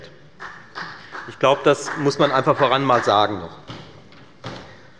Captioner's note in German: Beifall bei der FDP und bei Abgeordneten der SPD